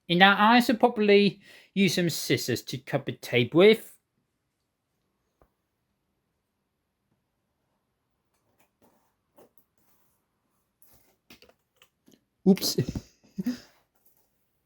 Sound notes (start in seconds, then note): 8.5 cutting sounds